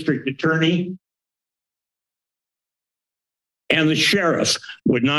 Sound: silence

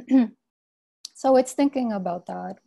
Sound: clears throat

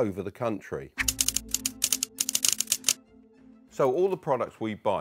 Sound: keys clacking

